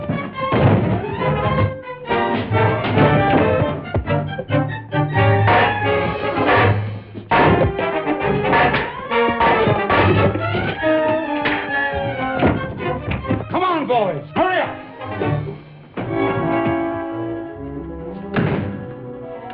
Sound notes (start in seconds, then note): 0.5 table hits the ground; 2.3 ladder falls over; 5.0 banging; 7.2 punches; 9.5 bangs; 11.1 punches; 18.2 door shuts